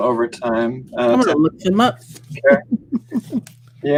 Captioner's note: laughs